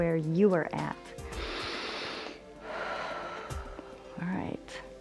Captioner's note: inhales and exhales